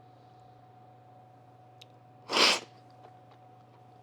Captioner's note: sipping